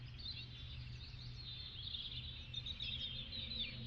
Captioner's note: birdsong, wind noise